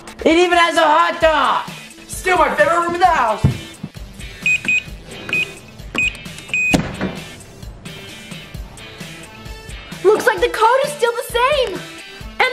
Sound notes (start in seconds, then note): 3.4 beeping